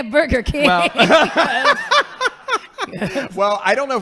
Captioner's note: laughing